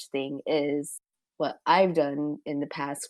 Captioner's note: none